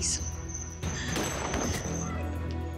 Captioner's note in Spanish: Disparo